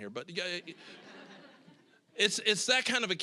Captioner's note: audience laughing